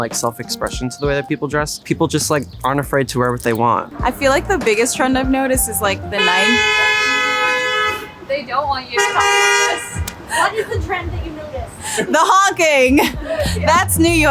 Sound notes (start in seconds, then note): 5.6 car horn blares; 13.6 laughs